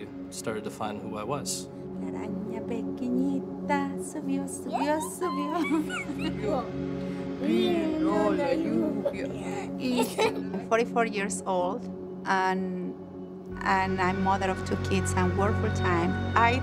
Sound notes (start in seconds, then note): 2.0 speaking spanish